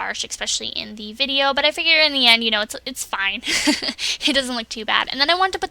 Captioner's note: laughs